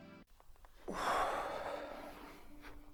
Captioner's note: sigh